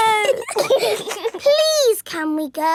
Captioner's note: giggling